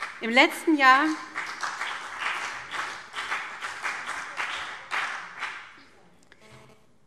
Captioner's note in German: Beifall BÜNDNIS 90/DIE GRÜNEN und CDU